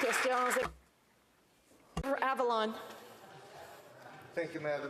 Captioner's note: some Applause